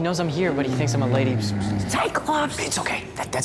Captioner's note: Polyphemus moaning